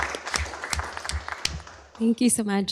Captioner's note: applause